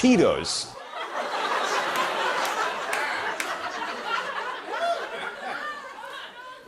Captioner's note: laughter